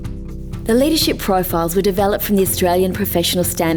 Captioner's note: voiceover